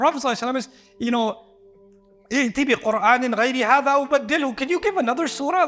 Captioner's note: Arabic